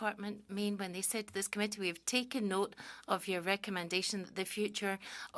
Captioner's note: speaking French